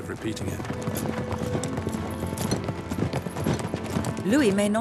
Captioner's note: hooves thudding; somber music